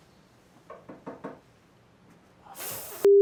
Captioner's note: door knocking